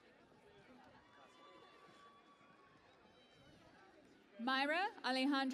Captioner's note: cheering and Applause